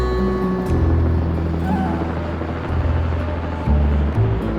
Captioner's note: helicopter